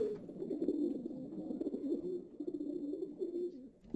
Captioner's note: the sounds of pigeons